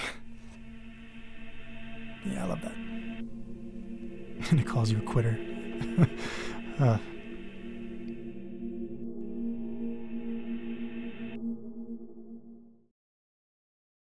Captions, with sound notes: Yeah I love that ... and it calls you a quitter (laugh)